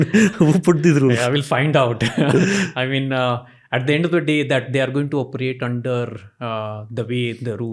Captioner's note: chuckles